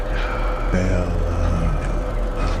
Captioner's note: deep Voice